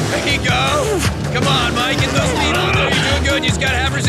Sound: speaks quickly

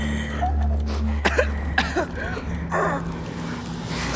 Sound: coughing

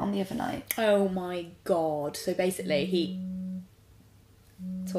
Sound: phone vibrates

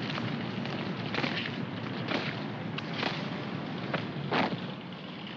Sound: heels stomp

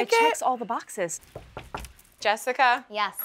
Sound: knocks

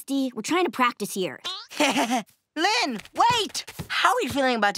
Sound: laughing

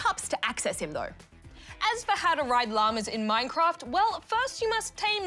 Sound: none

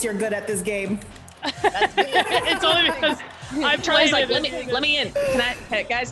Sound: laugh

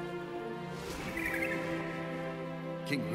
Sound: bird sings

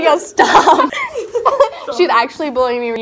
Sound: girl laughs

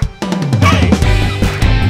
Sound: voiceover

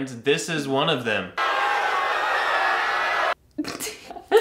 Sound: loud cheers

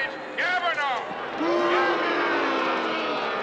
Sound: crowd booing

